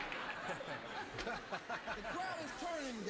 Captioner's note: laughing